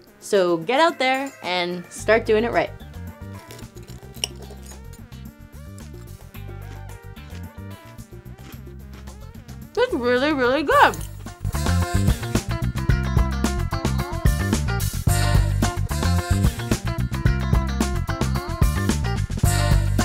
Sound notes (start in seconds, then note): 3.4 knife hitting plate; 5.6 chewing